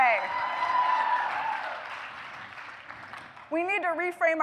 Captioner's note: applause